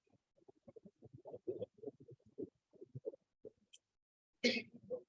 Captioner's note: audio becomes muffled